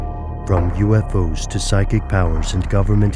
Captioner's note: voiceover